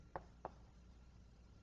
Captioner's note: none